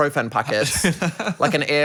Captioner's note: laughs